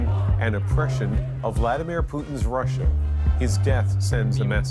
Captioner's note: chants